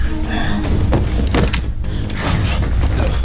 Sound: gun clacking on floor

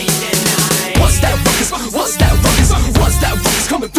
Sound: ruckus!

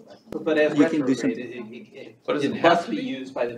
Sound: indistinct chatter

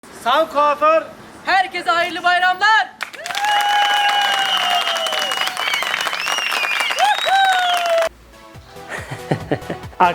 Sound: applause

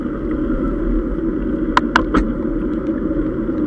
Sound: gear shifting

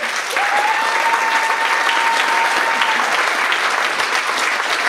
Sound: audience applauds

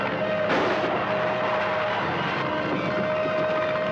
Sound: gun bangs; dramatic music

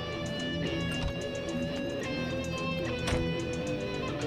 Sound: door opens and closes

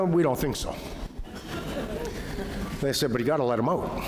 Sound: laughter

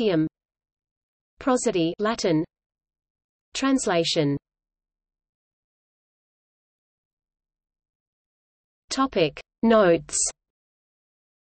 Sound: Latin

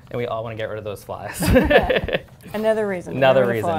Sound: laughter

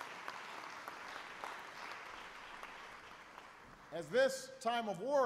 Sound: applause

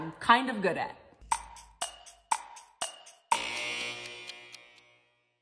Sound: clock ticking

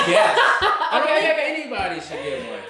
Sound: laughter

